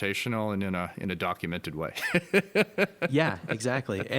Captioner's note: chuckles